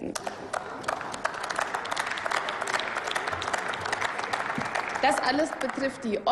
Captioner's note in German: Applaus